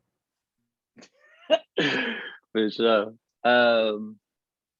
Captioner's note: laughs